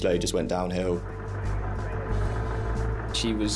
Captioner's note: boat droning; intense music